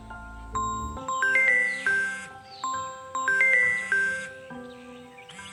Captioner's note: phone ringing